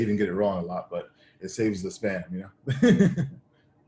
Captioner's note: laughs